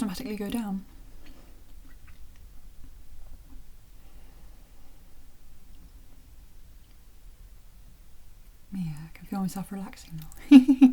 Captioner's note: chuckle